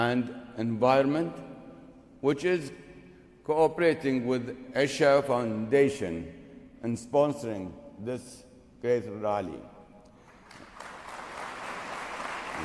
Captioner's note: applause